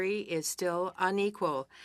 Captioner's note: speaking French